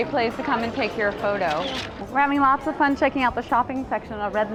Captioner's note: sound: camera shutter